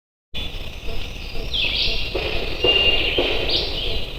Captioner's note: birds chirping; banging